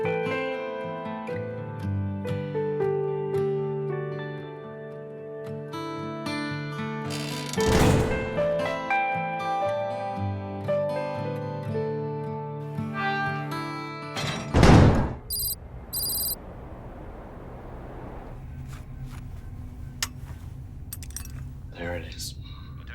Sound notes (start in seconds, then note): 0.3 soft music continues; 7.0 door creaking; 12.6 door creaking; 16.6 soft music continues